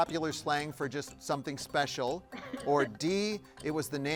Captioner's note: laughs